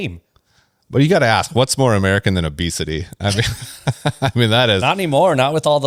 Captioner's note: laughs